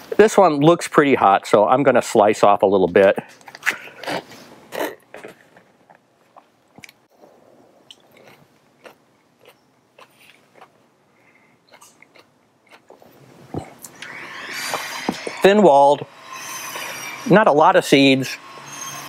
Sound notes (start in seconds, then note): 6.0 cutting and chewing